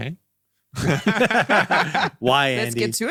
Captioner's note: all narrators laughing